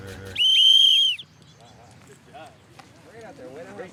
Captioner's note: whistle blows; people chattering